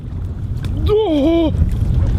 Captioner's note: wierd grunting